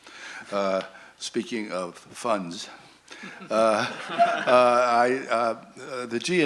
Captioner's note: laughter